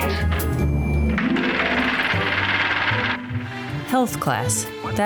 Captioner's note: projector clattering